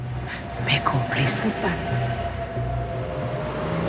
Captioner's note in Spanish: Chirrido de llantas